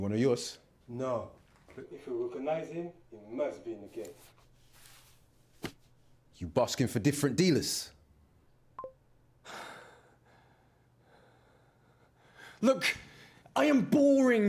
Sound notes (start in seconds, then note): 8.8 computer bleeps